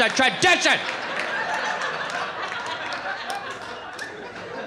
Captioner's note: audience laughing